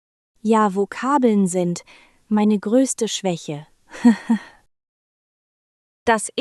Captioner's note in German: lacht